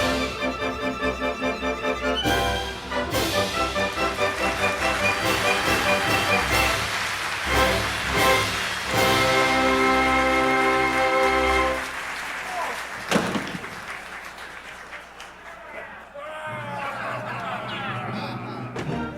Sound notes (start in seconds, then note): 3.1 applause; 3.3 overture plays; 14.9 pirates laughing